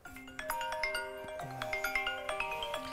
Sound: phone ring

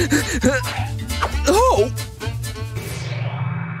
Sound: coughing still; coughs

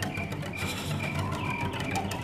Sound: shiver

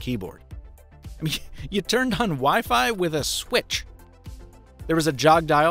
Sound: snickering

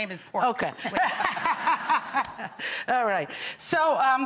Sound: Lidia laughs

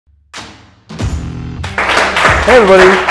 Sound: audience clapping; electronic rock music

